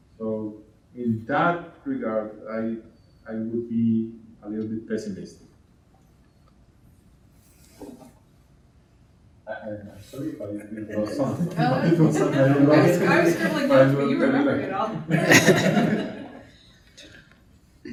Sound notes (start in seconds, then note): 9.6 speaking in Spanish; 15.0 laughing